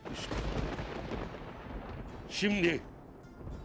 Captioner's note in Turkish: Gök gürültüsü efekti